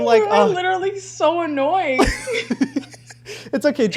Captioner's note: laughs